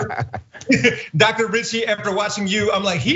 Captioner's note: laugh